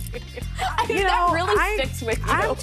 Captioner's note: laughs